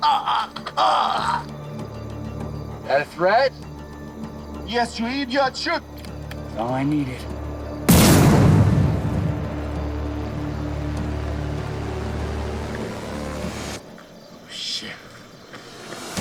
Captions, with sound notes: (Captain grunting) - That a threat? - Yes Reid, you can shoot. - That's all I needed. (gun firing) (tense music) - Oh shit.